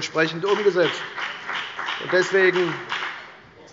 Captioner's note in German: Beifall bei der FDP